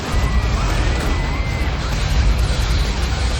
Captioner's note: spectators screaming